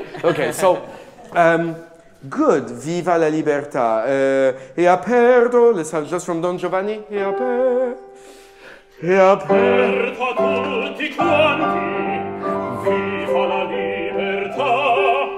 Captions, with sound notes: Okay, so, good. (speaking in a foreign language) Just from Don Giovanni. (singing in a foreign language)